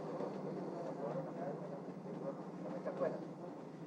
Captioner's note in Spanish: none